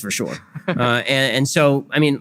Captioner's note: audience laughter